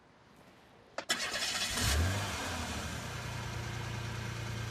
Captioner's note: engine starts